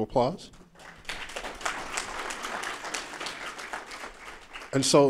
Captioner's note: applause